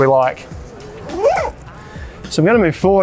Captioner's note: zip zipping